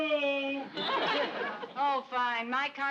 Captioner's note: audience laughs